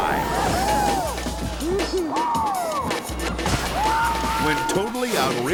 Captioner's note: shouting excitedly